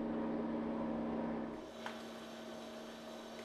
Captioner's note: low hissing